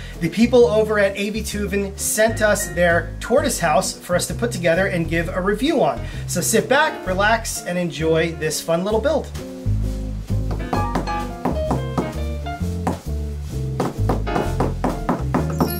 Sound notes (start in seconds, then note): 9.6 upbeat piano music; 10.5 hammer sounds